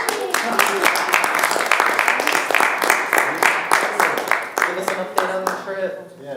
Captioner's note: clapping